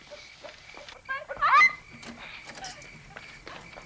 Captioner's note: Ginger squealing